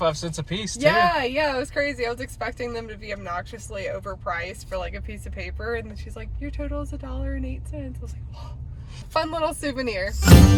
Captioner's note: gasp